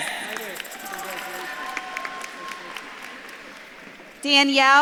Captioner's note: audience claps and cheers